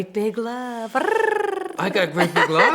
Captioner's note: trills tongue